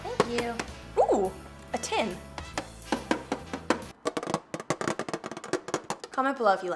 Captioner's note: taps tin